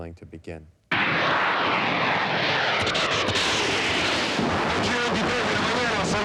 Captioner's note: plane engine roaring; man speaking in foreign language